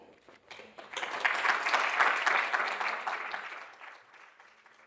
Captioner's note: audience applauding